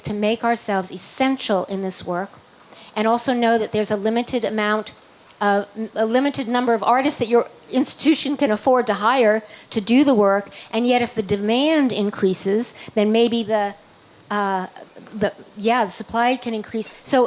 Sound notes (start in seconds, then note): none